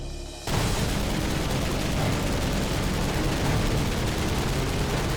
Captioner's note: gunfire